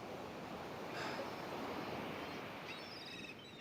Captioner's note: sigh